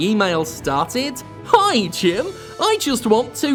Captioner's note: upbeat mimicking voice